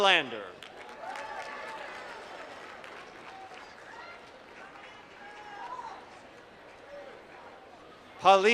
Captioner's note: applause